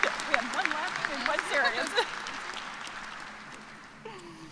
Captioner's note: cheers and applause